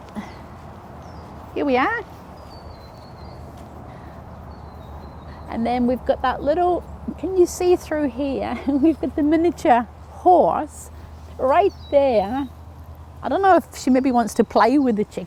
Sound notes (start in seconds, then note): 8.4 chuckles